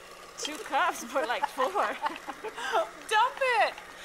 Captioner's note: laughs